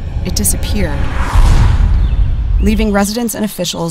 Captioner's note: birds chirping